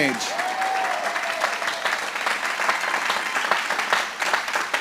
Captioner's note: applause